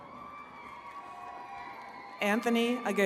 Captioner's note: attendees cheering